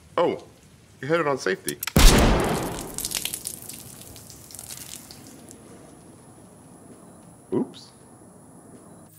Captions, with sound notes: - Oh, you had it on safety. (gun fires) (blood spattering) - Oops.